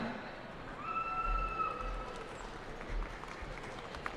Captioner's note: cheering